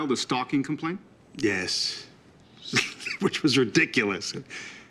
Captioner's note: chuckles